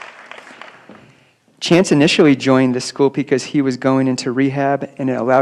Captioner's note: applause